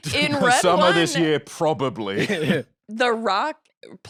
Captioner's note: laughs